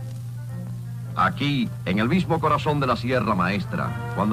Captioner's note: speaking spanish